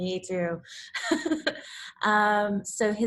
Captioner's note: laughs